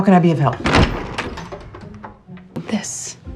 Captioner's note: door creaking